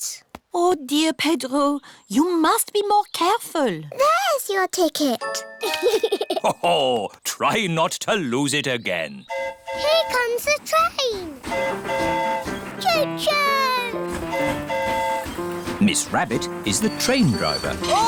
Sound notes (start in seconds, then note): 5.6 giggles; 9.3 train horn hooting; 13.9 train horn hooting